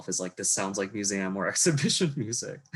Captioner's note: laughs